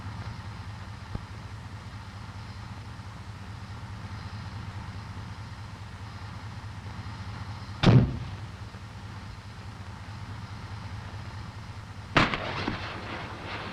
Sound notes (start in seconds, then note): 7.8 grenade launchers pop; 12.2 grenades bursting